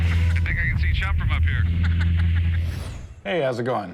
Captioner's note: laughs